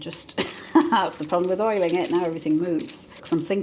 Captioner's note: laugh